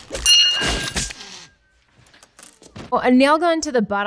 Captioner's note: bell dings; nail gun fires